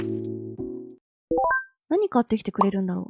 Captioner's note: message notification sound